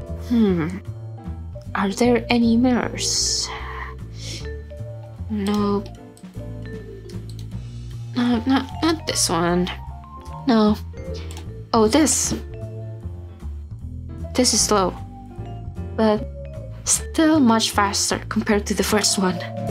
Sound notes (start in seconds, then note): 7.1 mouse clicky-clicking; 9.7 more moouse clicky-clicking